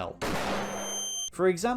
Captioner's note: flashbang